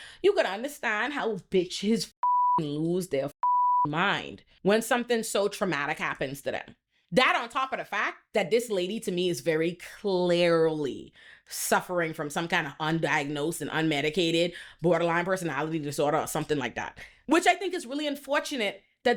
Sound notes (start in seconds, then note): 3.4 beep